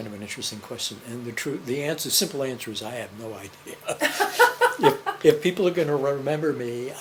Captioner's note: laughter